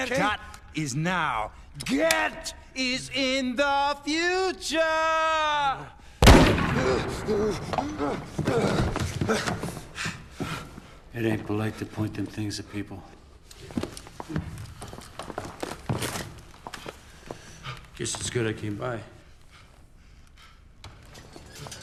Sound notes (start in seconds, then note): 6.8 gasping; 19.4 panting